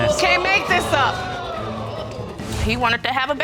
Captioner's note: audience exclaim